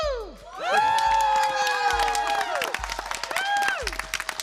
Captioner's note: applause and cheers